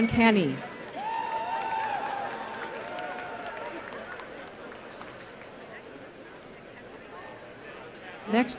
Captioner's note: applause